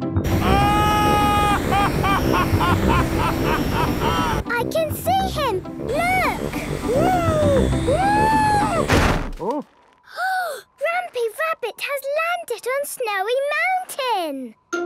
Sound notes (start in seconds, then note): 0.3 excited screaming, laughing; 8.6 snowy crashing